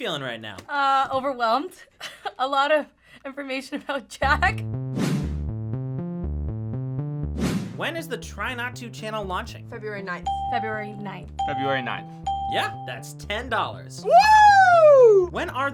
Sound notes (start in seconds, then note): 2.1 laughs; 5.0 upbeat music; 11.4 bell rings